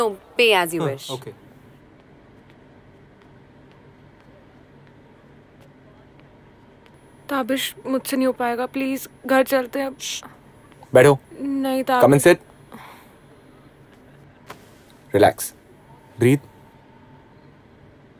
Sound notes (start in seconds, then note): 1.4 Footsteps